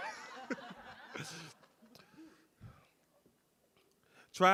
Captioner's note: audience laughs; laughs